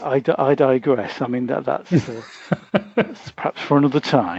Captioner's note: laughs